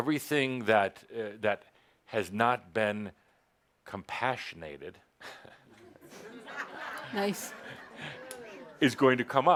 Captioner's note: laughter at Adamus’ new word